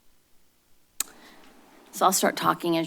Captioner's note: clicks